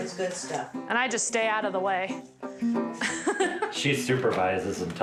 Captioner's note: laughs